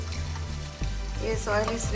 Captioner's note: oil sizzling